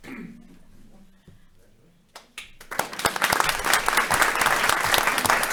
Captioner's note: audience applauding